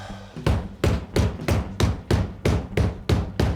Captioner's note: hand tapping